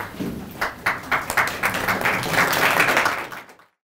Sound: applause

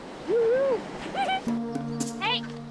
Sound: giggles

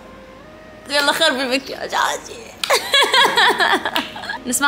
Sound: laughs

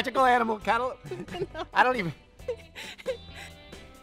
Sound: laughs

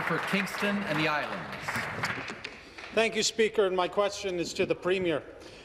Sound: applause

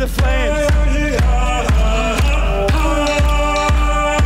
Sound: foreign vocalizing

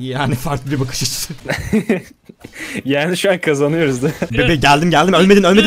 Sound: laughter

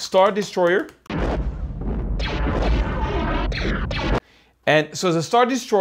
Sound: lasers whoosh

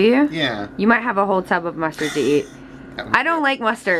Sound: laughs

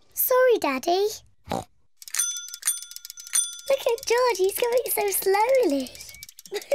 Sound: snorts; bicycle bell ringing; laughs, snorts

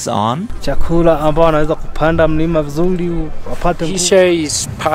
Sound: speaks in foreign language

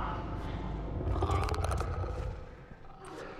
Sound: Bloater growls

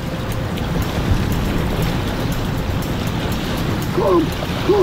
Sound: strong wind, water

